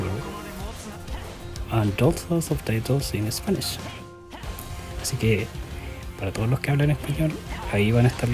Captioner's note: Spanish